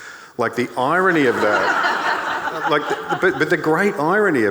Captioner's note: audience laughing